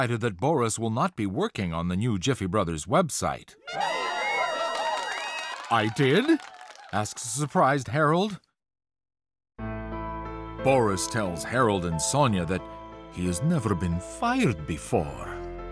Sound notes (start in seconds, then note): 3.6 marketing team cheers; 3.7 trumpets; 9.6 sombre piano music